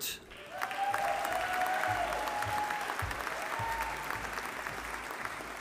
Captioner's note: audience applauding